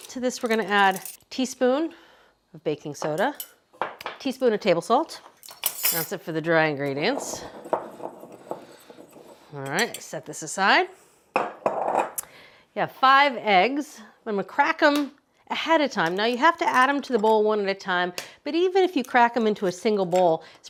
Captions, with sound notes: To this we're gonna add teaspoon of baking soda, teaspoon of table salt. That's it for the dry ingredients. All right, set this aside side. (bowl clunking) You have five eggs. I'm gonna crack 'em ahead of time. Now you have to add 'em to the bowl one at a time, but even if you crack 'em into a single bowl,